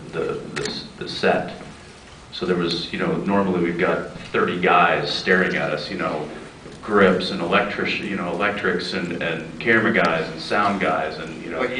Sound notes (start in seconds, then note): none